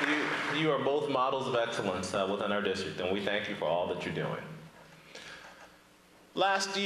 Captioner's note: applause